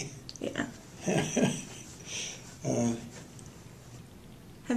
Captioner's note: laughter